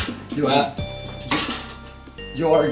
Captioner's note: sad chair sounds